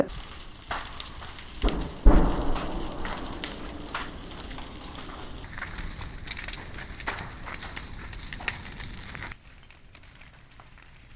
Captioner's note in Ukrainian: Звуки полум'я